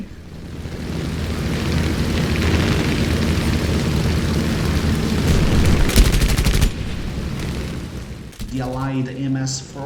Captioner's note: aircraft Engines ,Gunfire, Flying Sounds